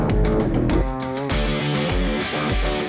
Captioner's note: engines howl